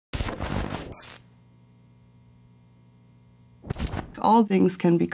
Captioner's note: logo crackles